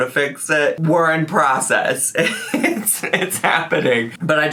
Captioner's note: laughs